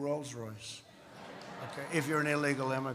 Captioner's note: laughter